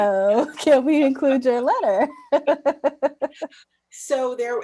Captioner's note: laughs